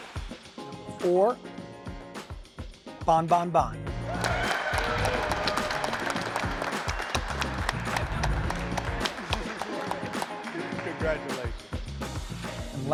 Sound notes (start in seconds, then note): 0.0 bright upbeat music; 4.1 applauding